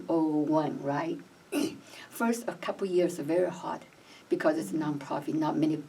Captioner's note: clears throat